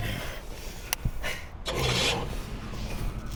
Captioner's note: car starts